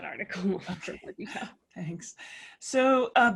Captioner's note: laugh